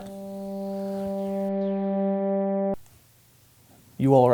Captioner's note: strange droning sound